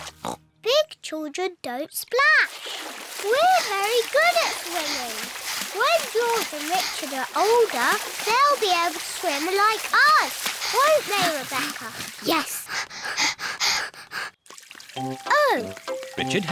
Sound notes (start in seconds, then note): 0.0 oinks; 13.1 both panting